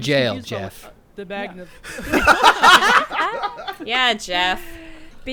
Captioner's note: group laughing